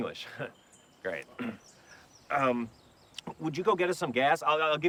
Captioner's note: clears throat